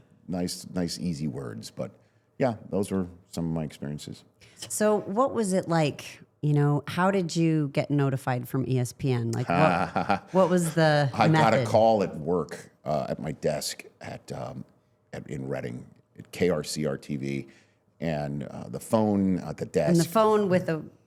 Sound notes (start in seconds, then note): 9.4 laughs